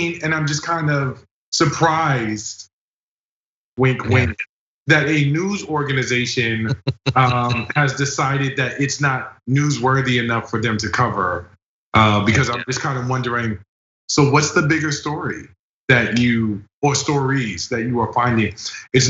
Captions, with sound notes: and I'm just kind of surprised. That a news organization [LAUGH] >> Has decided that it's not newsworthy enough for them to cover because I'm just kind of wondering. So what's the bigger story that you post stories that you are finding?